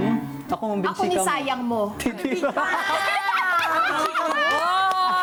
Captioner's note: laughs